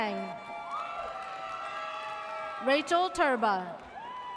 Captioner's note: audience cheers